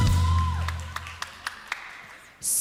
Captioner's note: audience applauding